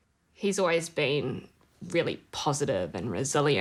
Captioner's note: none